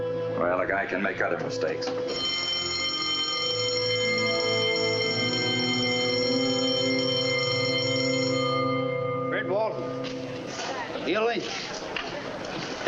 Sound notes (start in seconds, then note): 2.0 bell ringing